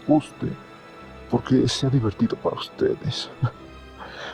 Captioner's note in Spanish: risa